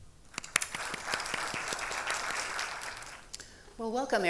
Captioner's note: audience applauding